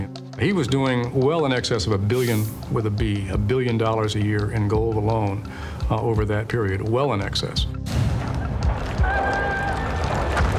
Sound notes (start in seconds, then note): 8.9 yelling